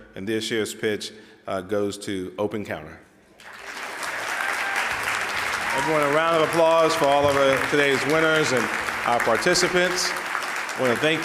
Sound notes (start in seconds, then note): 3.4 audience applauds